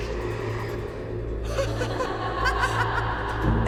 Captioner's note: woman laughs